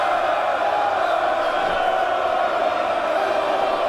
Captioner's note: crowd cheering